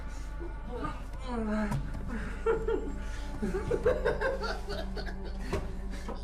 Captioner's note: Donovan groaning and giggling